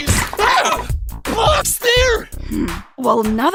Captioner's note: blocks smack